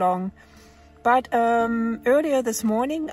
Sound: none

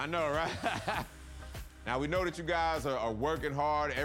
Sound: laughs

